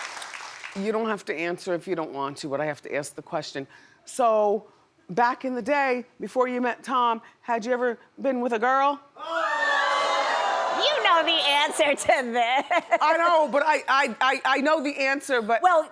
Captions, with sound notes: You don't have to answer if you don't want to but I have to ask the question. So back in the day, before you met Tom, had you ever been with a girl? (audience gasps) You know the answer to that. (laughs) I know, but I know the answer but--